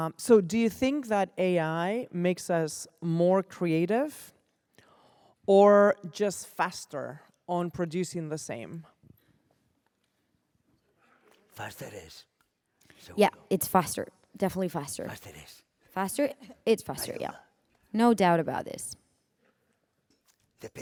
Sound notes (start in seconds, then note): 11.9 speaking spanish